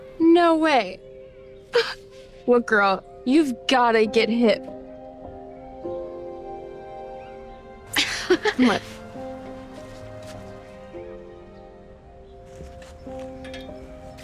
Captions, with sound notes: - No way, (laughs) look, girl, you've gotta get hip. (Sophie laughs) Come on. (slow piano music continues)